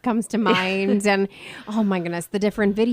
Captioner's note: laughing